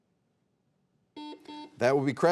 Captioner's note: buzzer beeping